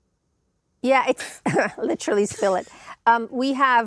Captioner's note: chuckles